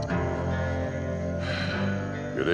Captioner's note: sighs